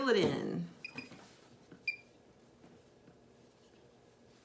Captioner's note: machine beeps